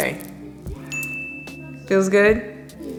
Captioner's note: loud ding